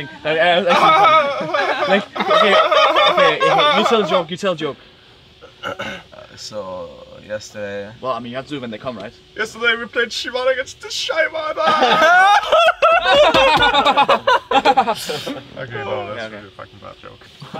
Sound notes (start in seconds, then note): 0.6 team fake laughing poorly; 11.5 team fake laughing poorly